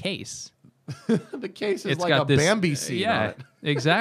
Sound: laughter

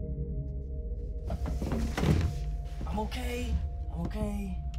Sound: body thuds

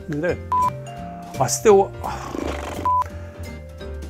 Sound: horse Sounds!

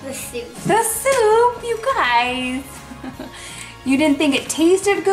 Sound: laughing

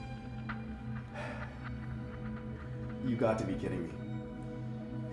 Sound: sighs

